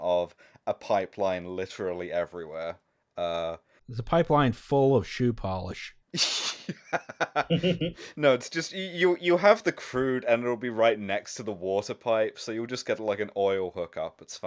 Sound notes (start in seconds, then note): 6.1 laughter